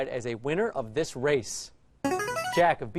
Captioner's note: answer bell